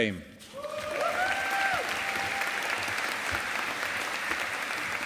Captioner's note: audience applauding